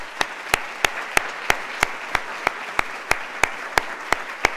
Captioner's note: applause